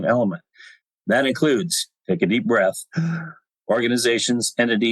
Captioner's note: gasp